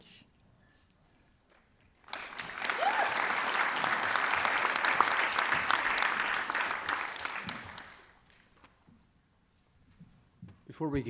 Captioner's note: applause and Cheering